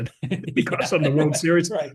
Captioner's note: laugh